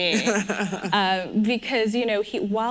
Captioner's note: laughs